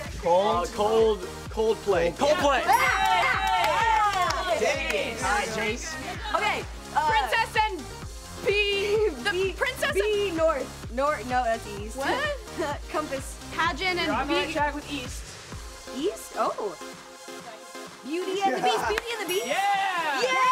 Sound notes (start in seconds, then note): 2.9 yelling